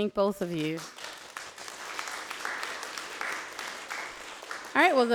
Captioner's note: audience applauds